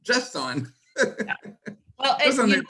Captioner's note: chuckles